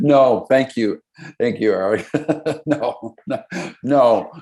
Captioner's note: laughing